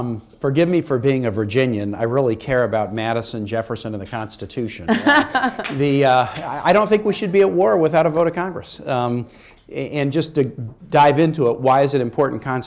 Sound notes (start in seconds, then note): 5.0 laughs